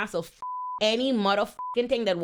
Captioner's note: beep